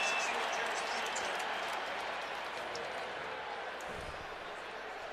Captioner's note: pa announcement